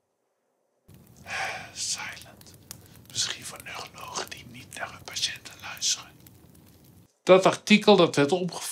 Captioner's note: whisper